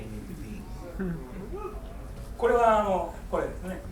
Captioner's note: crowd murmuring; speaking in foreign language